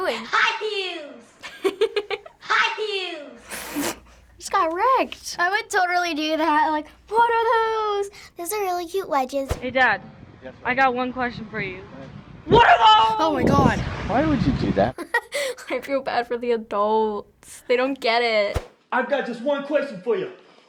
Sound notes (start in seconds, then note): 0.0 laughs; 1.4 laughs; 1.5 cracks up; 14.9 chuckles